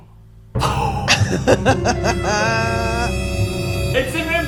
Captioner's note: dramatic chord; laughter